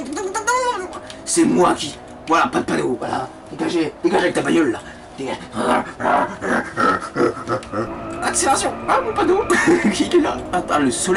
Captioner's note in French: Grogne